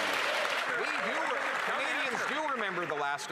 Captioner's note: cheers & Applause